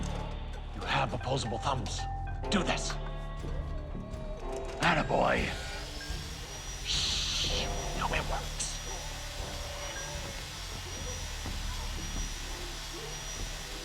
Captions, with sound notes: - You have opposable thumbs. Do this. Attaboy. [whirring] Shh. Now it works.